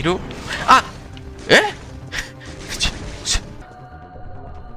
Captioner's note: indignation noises